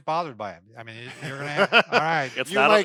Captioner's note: laughing